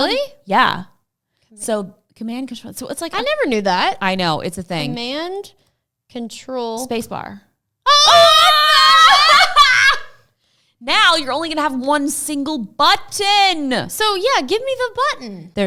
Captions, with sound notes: - Really? - Yeah. So Command + Control, yeah, so it's like, - I never knew that. - I know it's a thing - Command + Control - Space bar. (shouts in excitement) - What the heck? - Now you're only going to have one single button. - So yeah. Give me the button.